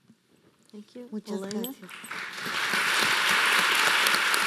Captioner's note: speaking in foreign language; audience applauding